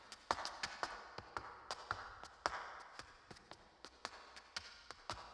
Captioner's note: shoes clacking